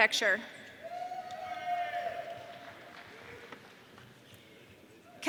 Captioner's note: audience cheering